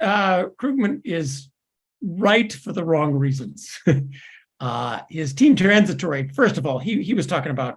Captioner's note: laugh